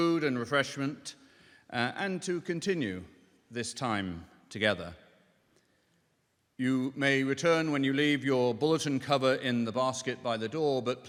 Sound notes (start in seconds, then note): none